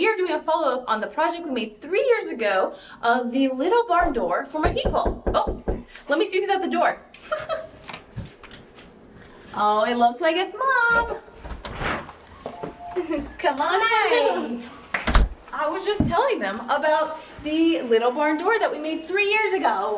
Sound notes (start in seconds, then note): 4.6 knocking on door